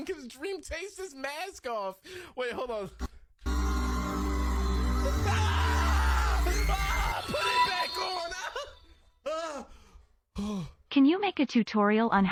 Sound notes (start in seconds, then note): 3.4 upbeat music; 3.5 audience screaming